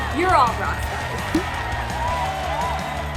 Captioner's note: applause